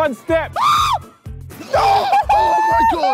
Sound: screams shrilly

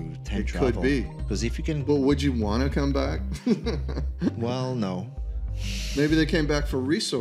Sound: laughter

